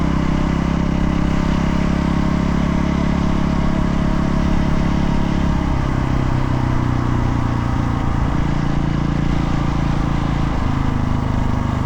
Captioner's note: engine revving